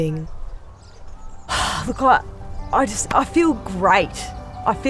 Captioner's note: kelly sighs